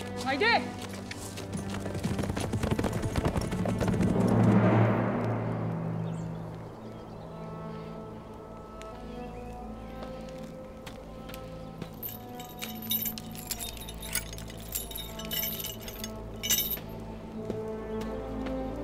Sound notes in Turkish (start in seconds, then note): 1.8 At nalı sesi; 8.1 Kuş ötüyor; 12.7 Gerilim müziği